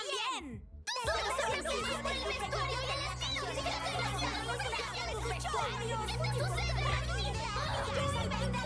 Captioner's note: all shouting at once